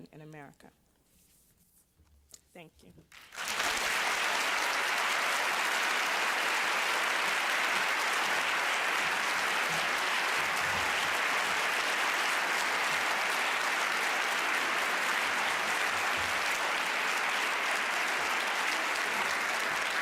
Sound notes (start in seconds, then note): 3.6 applause